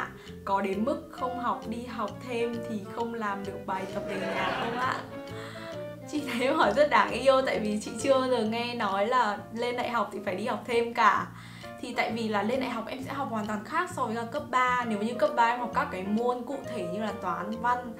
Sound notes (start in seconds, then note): 3.8 laugh